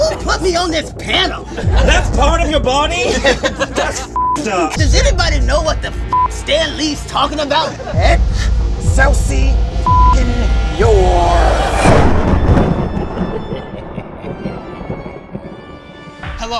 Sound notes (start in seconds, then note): 3.3 group laughs; 12.0 dramatic music; 12.0 thunder claps; 12.6 evil laughter